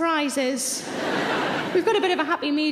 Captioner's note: audience laughing